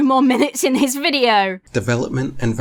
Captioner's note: laughs